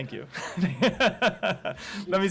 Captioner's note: laughter